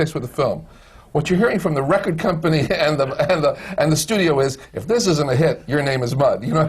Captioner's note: laughs